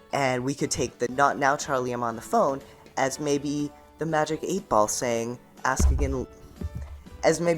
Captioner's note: bumps microphone